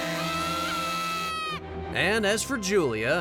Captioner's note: screaming